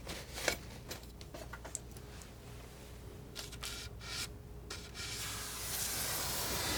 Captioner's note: scratching